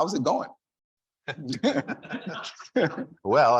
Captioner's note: all laughing